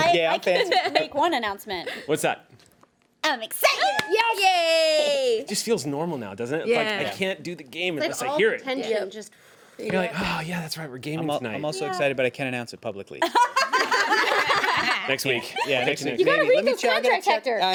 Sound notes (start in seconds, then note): 13.2 women laugh